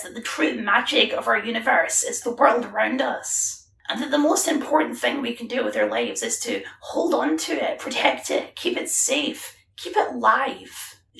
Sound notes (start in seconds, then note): none